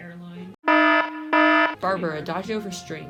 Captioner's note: alarm